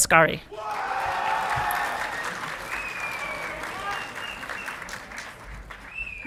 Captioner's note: audience clapping and cheering